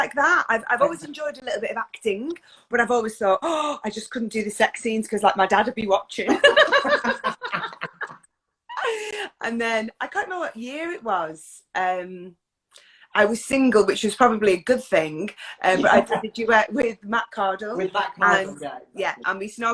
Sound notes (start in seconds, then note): 4.2 inhales loudly; 6.3 laugh; 15.7 laughs